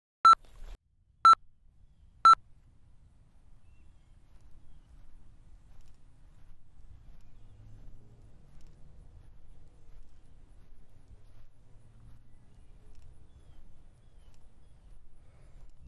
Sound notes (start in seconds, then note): 0.4 beeping; 8.8 footsteps